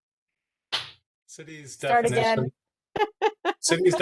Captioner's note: laughs